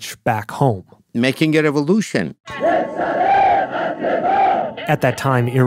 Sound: crowd yelling

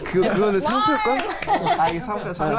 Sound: laughs

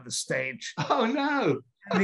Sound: laughs

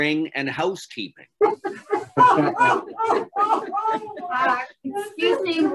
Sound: laughter from everyone

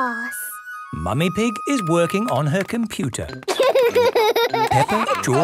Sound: laughter

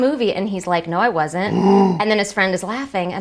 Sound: gasp

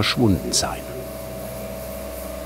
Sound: machine whirring

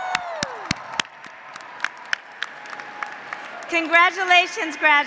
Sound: graduates applauding; graduates cheering

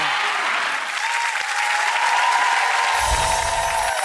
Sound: audience applauding; light music

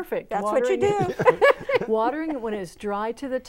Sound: laughing

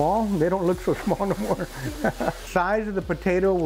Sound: pan sizzling

